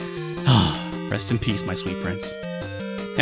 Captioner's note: sigh